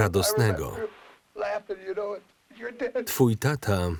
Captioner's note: laughs